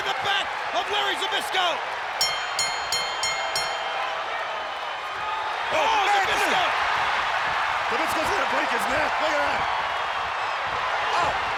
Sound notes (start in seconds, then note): 2.2 bell rings; 6.7 audience cheers